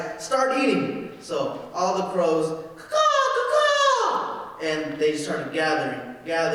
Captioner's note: bird calling